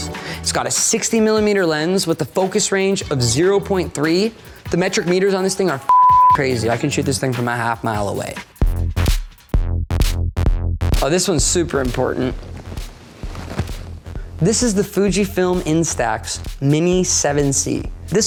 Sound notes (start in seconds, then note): 5.8 beep; 8.7 upbeat music